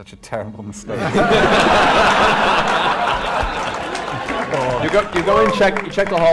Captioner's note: laughter